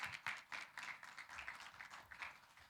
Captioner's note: applause